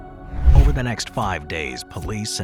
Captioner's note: gentle suspenseful music continues; transition whooshes